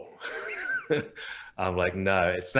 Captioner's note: laughing